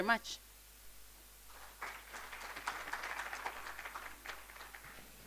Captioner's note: applause